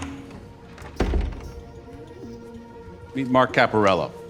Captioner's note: door thuds